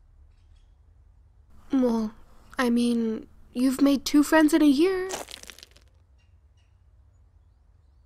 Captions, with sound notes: Well I mean you've made two friends in a year- [scurry]